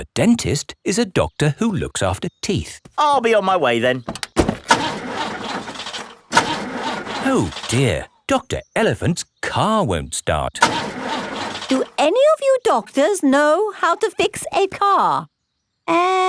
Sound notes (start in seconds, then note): 4.0 engine sputtering